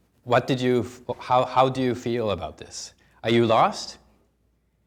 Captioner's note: none